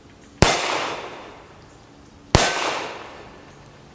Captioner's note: gun fires